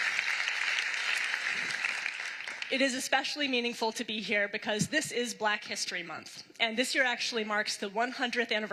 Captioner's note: applause